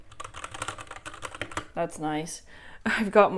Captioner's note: satisfying keyboard sounds